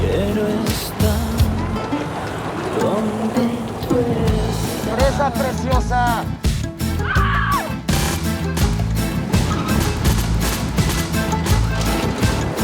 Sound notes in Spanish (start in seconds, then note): 2.6 Gritos